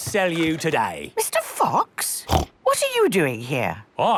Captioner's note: snorts